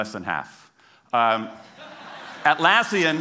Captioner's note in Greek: Γέλια